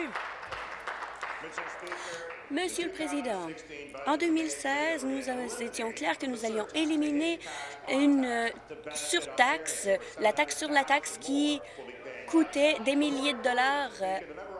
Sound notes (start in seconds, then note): 2.3 applause